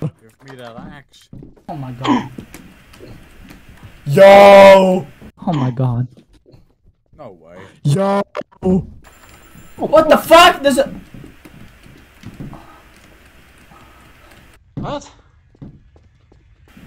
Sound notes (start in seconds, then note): 2.1 gasps; 9.0 phone ringing